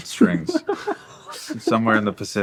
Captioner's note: laughing